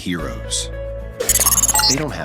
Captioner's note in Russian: звуки взлома